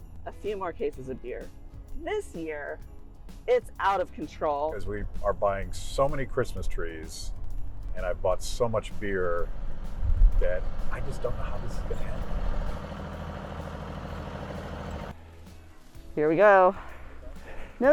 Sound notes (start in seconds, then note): 12.4 engine revs